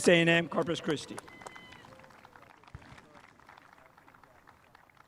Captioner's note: spectators applauding